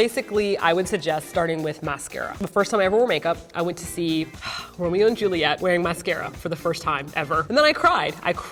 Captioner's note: singing; sighs